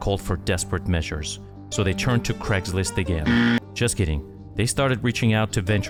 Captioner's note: wrong answer buzzing sound